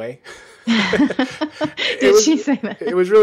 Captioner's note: laughter